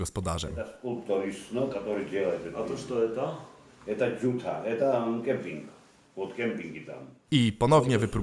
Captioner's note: Russian